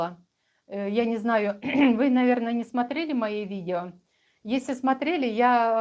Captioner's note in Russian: откашливается